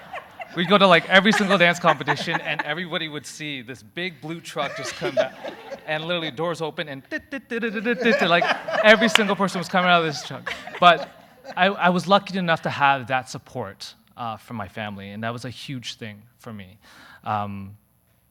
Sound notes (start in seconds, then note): 7.8 humming carnival music